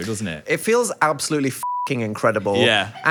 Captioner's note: beeps